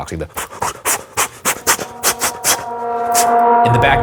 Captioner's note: exhaling; tense music